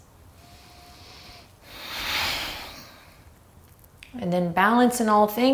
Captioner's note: deep breathing